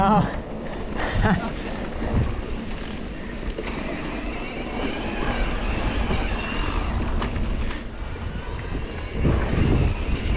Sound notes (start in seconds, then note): 4.4 bike humming; 4.4 bike ratchets